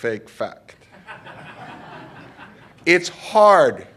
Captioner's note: laughter